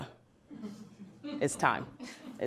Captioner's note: laughs